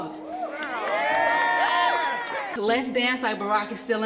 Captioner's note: cheers